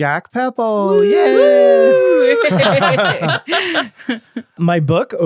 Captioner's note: all wooing and laughing